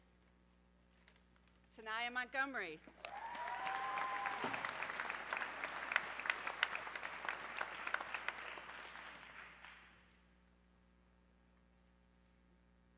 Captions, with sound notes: Tenaya Montgomery, (audience cheering)